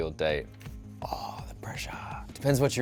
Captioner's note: whispers